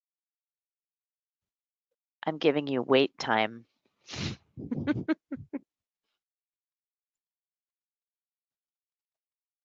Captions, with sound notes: I'm giving you wait time. (laughs)